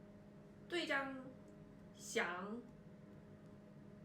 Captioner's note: chinese